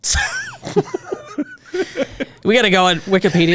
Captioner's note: both laughing